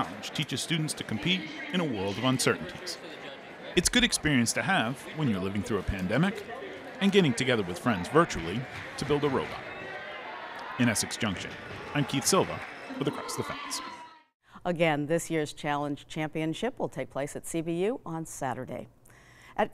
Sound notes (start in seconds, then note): 9.7 crowd chattering